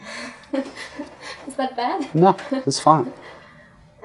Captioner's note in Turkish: Kahkaha